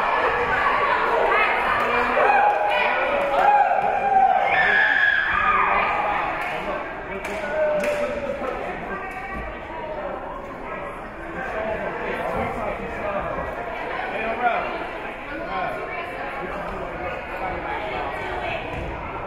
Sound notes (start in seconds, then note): 2.2 team cheering